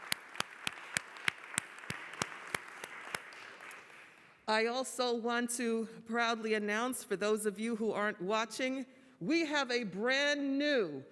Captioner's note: applause